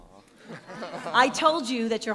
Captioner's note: chuckling